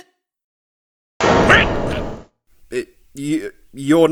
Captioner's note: grunting!